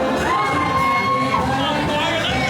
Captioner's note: guests cheering and whooping